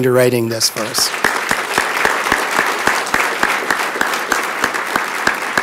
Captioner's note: crowd clapping